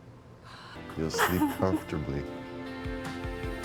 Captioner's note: sobbing